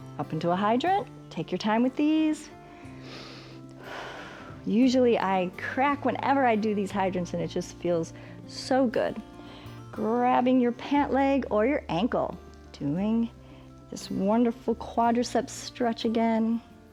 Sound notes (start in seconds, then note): 2.6 inhales and exhales